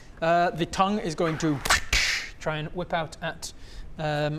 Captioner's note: wrrch-dssch